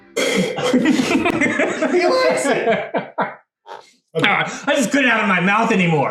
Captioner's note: spitting; laughing